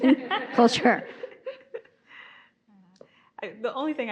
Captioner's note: audience laughing